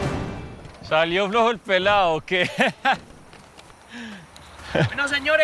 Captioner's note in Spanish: Risas